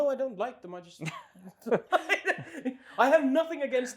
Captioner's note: laughs